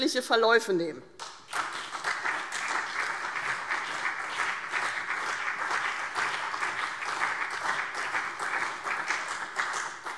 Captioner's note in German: Beifall CDU und BÜNDNIS 90/DIE GRÜNEN